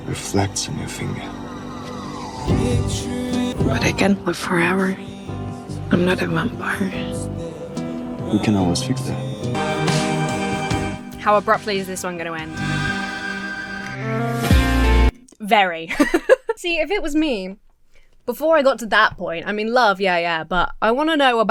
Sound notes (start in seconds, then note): 9.7 uplifting music; 13.9 buoyant music; 15.8 Emma laughs